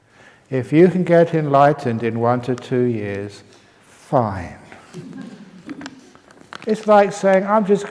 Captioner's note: laughs